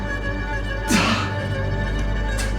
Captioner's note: Sam panting